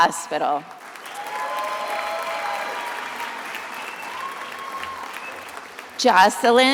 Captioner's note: attendees applauding and cheering